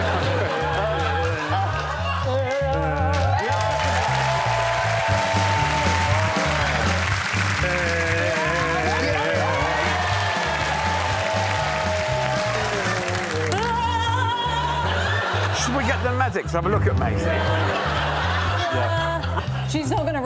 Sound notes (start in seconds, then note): 2.2 Phil groans; 5.4 applause; 11.6 applause